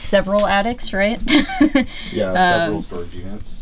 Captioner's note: laughing